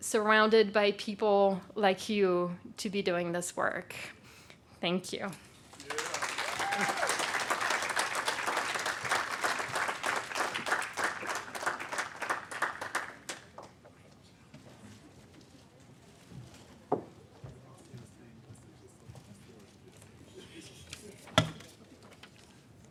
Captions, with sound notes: surrounded by people like you to be doing this work. Thank you. (cheers) (audience applaud)